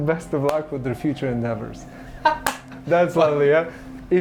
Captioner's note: clapping hands and laughing